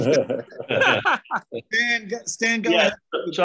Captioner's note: laughs